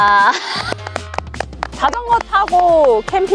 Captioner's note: clapping